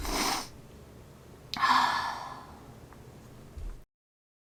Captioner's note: sigh